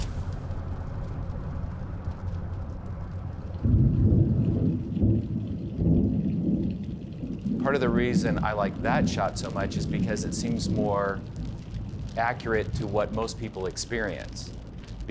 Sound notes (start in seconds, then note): 3.8 thunder rumbles